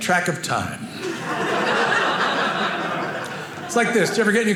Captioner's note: audience laughing